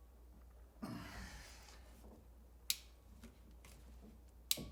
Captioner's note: grunts